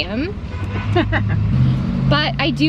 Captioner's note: mom laughs